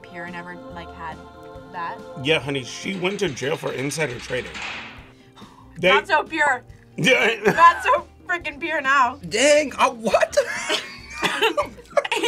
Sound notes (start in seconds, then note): 7.4 laughs; 10.4 both laugh